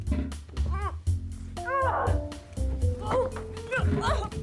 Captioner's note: Joan grunting